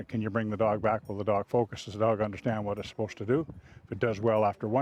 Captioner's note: voiceover